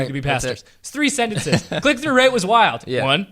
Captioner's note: laughs